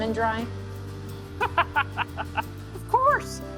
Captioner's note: laughs